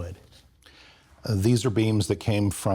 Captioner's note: rustling